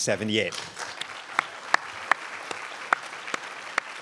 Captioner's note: crowd applauds